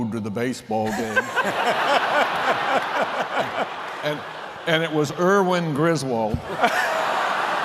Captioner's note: laughter; laughter